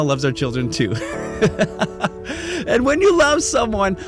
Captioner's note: laughing